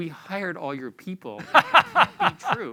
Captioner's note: laughter